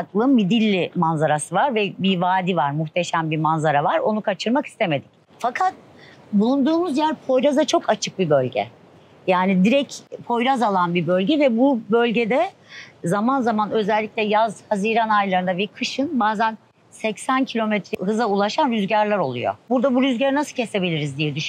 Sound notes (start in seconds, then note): 9.5 north wind